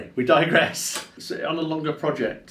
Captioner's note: laughs